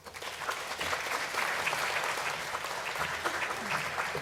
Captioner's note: applause